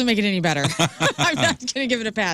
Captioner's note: laughing